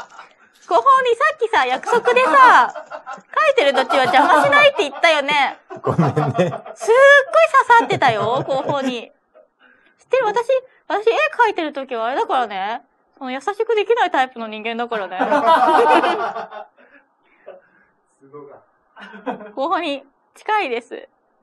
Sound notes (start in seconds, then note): 8.0 laughs